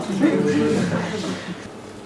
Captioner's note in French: rires